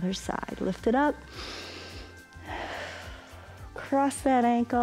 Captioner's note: inhales and exhales